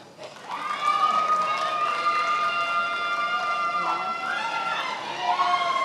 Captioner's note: attendees applauding and cheering